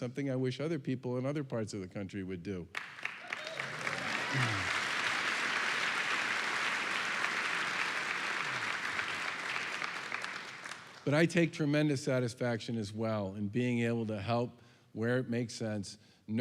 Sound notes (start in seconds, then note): 2.7 applause and cheering